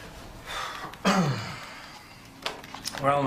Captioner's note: clears throat